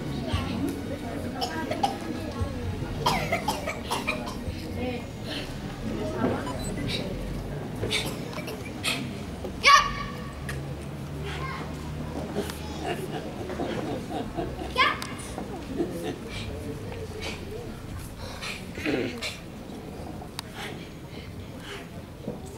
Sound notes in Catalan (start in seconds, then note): 0.2 Algú tossint; 5.9 Crits de karate